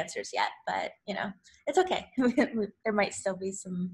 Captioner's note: laughs